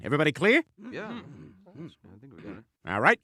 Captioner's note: agreement noises